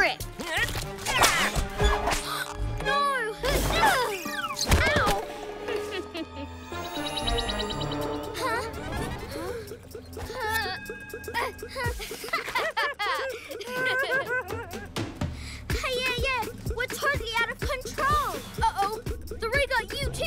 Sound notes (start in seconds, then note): 1.5 gasps; 5.6 chuckles; 11.3 both chuckle